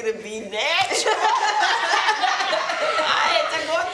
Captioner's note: group laughs